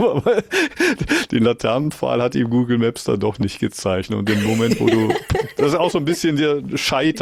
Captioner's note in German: gelächter; gelächter